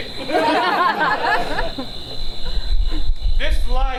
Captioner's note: audience laughs